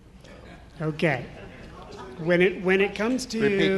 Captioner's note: audience laughs